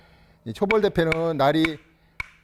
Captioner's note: hammering sound